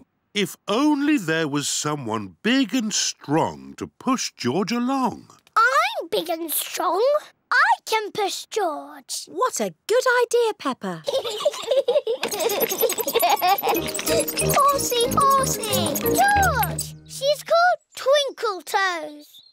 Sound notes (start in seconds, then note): 11.0 both giggling